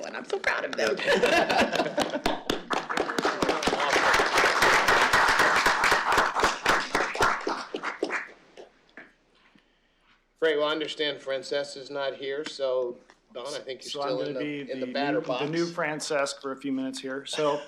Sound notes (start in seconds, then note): 2.8 applause